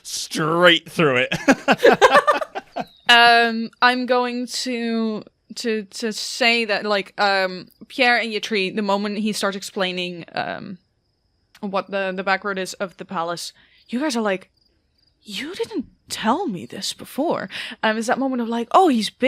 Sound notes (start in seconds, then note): 3.2 laughs